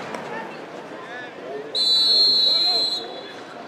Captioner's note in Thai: เสียงนกหวีดเป่าเริ่มครึ่งหลัง